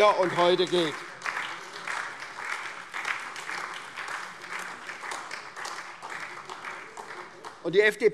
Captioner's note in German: Beifall SPD und vereinzelt AfD